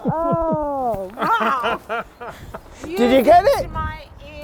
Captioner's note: laughs